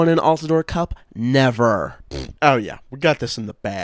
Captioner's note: blows raspberry